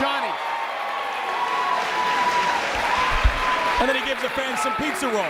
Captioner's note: applause